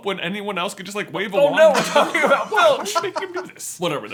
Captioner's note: laughing